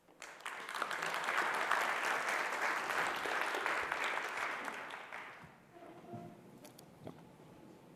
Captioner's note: applause